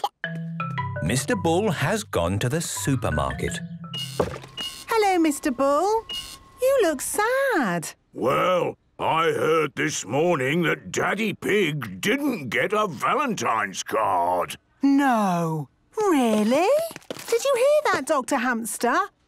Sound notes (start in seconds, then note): 3.8 machine beeping